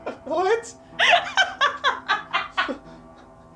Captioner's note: heavy laughter